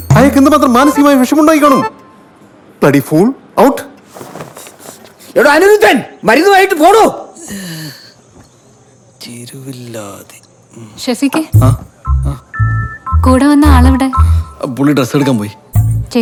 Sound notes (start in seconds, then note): 7.7 groaning